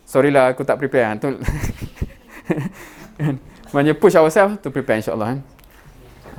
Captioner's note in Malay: ketawa